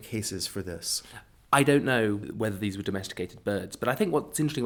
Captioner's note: voiceover